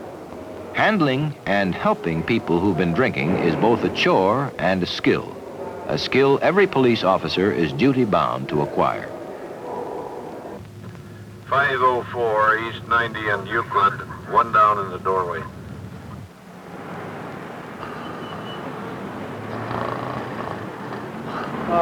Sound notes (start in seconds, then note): 10.6 police dispatch; 17.7 man passed-out and snoring